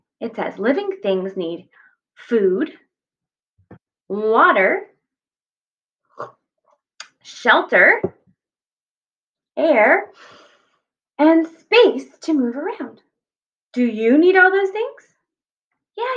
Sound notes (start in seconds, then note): 5.7 sips water; 10.2 deep breath